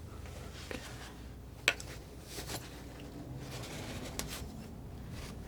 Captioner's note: scratching